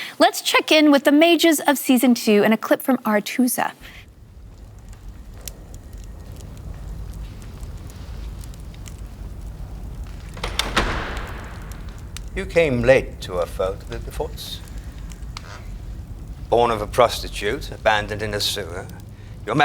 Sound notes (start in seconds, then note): 3.8 fire crackling; 10.4 door closes